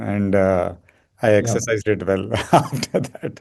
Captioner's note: laughs